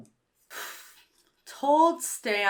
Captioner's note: sighs